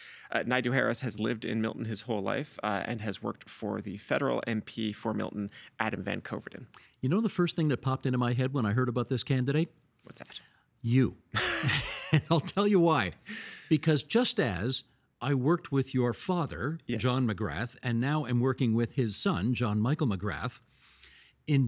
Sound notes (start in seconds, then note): 11.4 laughing